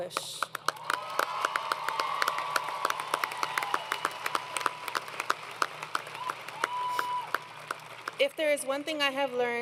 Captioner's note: crowd Cheering